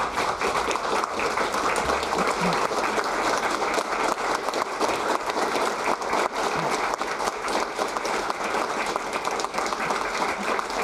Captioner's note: applause